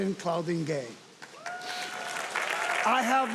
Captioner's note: audience applauding and cheering